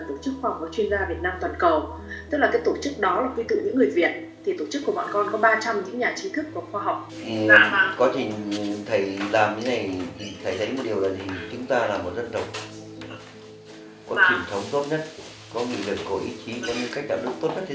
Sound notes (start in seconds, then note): 12.1 Vietnamese